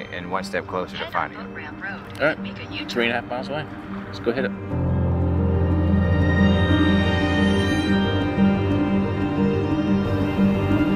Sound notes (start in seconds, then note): 4.7 truck engine roaring; 6.0 gentle music